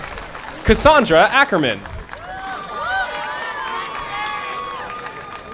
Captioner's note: audience applauding